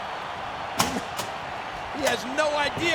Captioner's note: door clicks